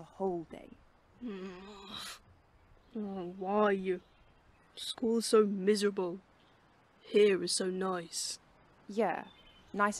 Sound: James grumbles

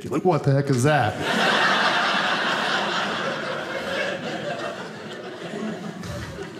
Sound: audience laughing

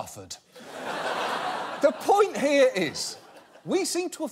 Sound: audience laughing

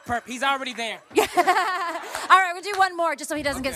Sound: laughs

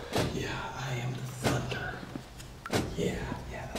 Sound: military drumming; sighing

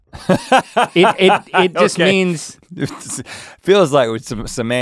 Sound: laughs

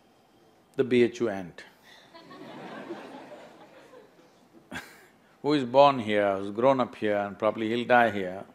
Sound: laughter

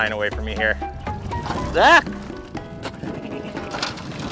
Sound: yelps

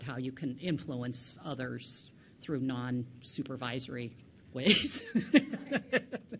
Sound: laughs

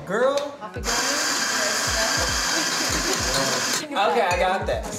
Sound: coffee grinder whirs

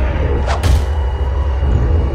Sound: clank

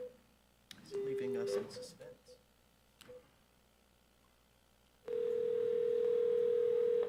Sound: board member faintly speaking; phone ringing

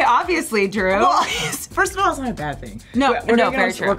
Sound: laughs

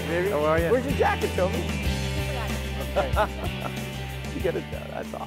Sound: laughing

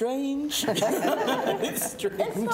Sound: both laughing

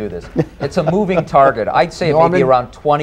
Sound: laughter

